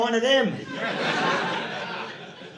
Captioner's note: audience laughing